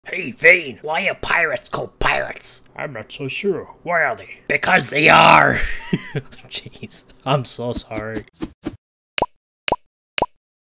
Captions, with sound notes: Hey Vane, why are pirates called pirates? I'm not so sure, why are they? ...because they arrrrr! (laughs) ...I'm so sorry